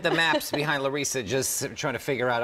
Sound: laughter

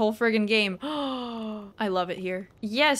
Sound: gasp

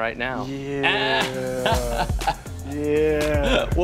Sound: laughs

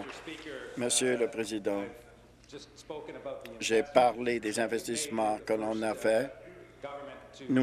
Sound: applause

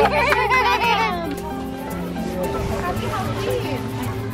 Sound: laughing

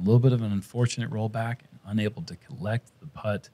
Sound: none

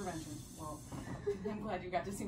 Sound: laughs

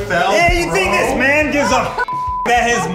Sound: beep

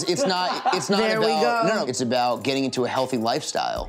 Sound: laughing

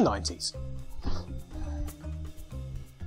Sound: grunts approvingly to self

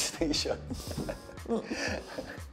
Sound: chuckles

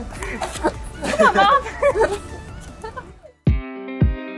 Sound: all laughing; intense upbeat music

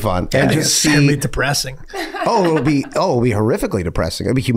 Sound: laughing

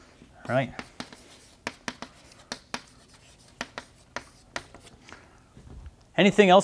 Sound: chalkboard writing

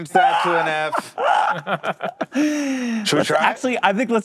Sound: laughs

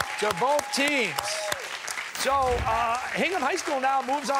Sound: cheers and applause

